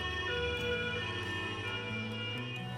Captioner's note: siren